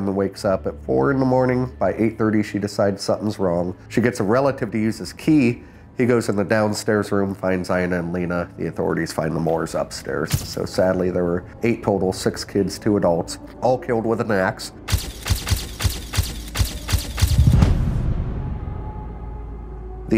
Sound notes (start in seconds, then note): 14.9 camera clicks repeatedly; 17.6 eerie music